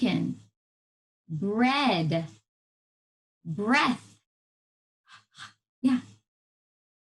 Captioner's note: short breaths